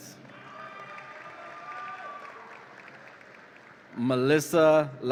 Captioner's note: audience applauds and cheers